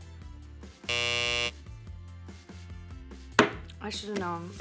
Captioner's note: buzzer buzzes